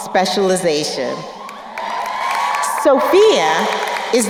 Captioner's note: crowd cheering and applauding